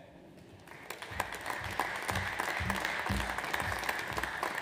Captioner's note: audience applauds